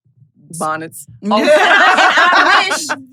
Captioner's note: everyone laughs